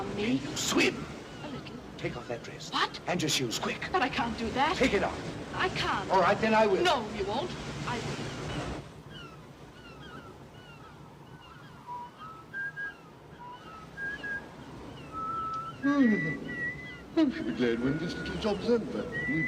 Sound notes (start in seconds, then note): 8.5 ocean sounds & birds squawking; 11.2 Harry whistles